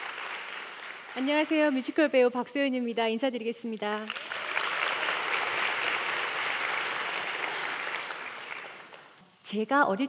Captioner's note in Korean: 박수